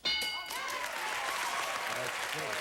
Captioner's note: audience applauding